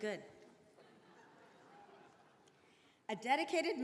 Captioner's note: attendees laughing